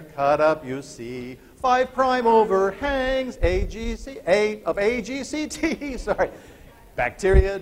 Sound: laughter

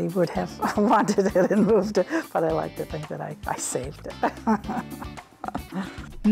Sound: laughs

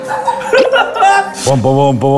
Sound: laughing

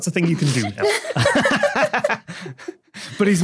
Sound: guests laughing

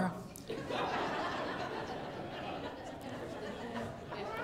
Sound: congregation laughing

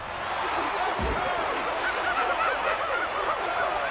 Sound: audience cheering; monkeys hooting excitedly

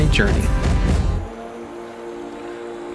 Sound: river rushing sound

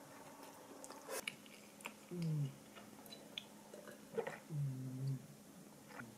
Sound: Hoochoo is snoring while sleeping😂

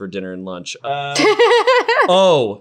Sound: laughing

